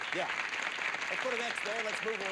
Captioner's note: audience applauding